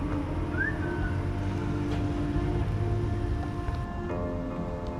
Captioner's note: John whistling; dramatic music